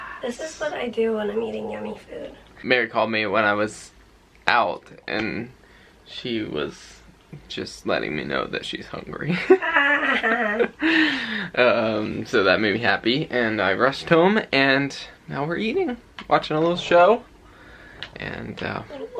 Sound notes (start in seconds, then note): 9.4 both chuckling